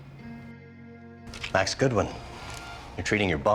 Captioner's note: voiceover